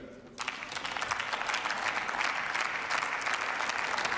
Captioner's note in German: Beifall